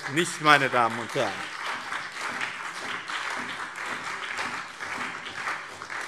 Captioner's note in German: Beifall BÜNDNIS 90/DIE GRÜNEN, SPD und vereinzelt DIE LINKE